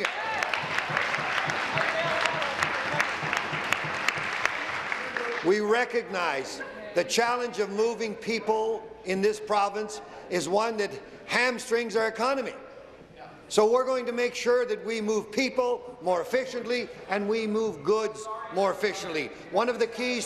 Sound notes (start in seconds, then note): 0.0 applause; 3.6 applause